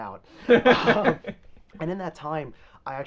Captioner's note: both laughing